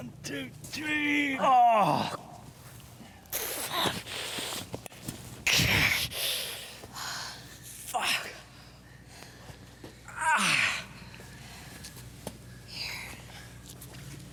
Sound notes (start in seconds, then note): 1.3 Malcolm groans loudly; 3.3 Jen gasps; 5.4 Malcolm moans; 7.0 Jane exhales deeply; 12.8 Jen softly